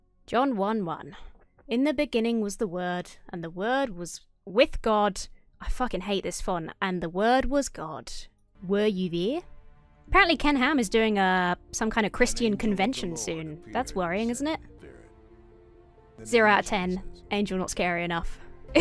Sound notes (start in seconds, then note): none